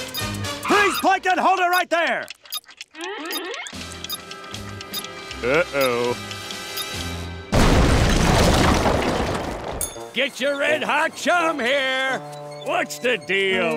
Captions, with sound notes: Freeze, Plankton, hold it right there! [beeping] Uh-oh. [beeping] Get your red hot chum here. What's the deal?